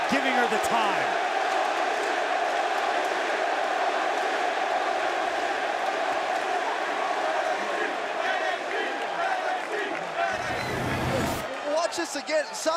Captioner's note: crowd cheering